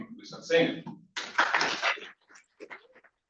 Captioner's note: applause